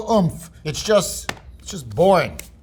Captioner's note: sandwich thuds; hands clapping